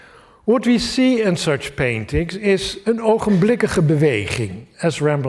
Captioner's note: non-english speech